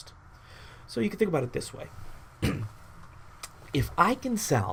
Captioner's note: coughs